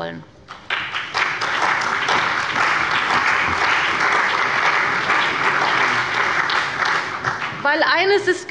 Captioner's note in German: Beifall bei der CDU und dem BÜNDNIS 90/DIE GRÜNEN